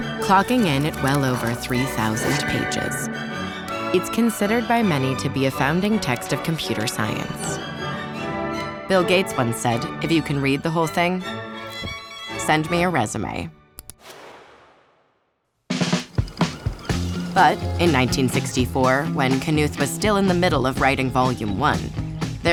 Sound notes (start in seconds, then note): 7.5 rousing classical music; 13.8 mouse clicks; 15.8 upbeat music; 16.0 film projector rolls